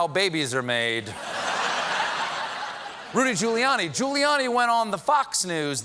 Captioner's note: laughter